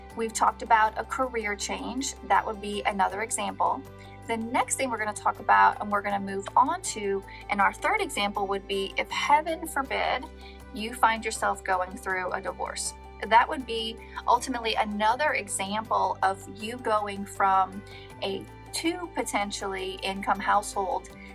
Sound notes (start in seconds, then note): none